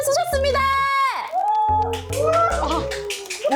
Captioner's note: cheers